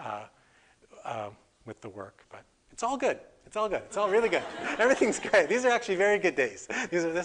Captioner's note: audience: Laughter